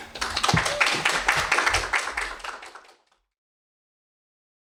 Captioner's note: audience clapping hands